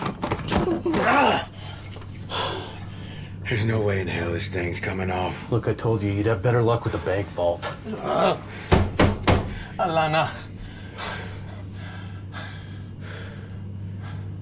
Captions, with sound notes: (Cole grunts) There's no way in hell this thing's coming off. - Look, I told you, you'd have better luck with a bank vault. - Ah. (door banging) (Ra speaking in foreign language)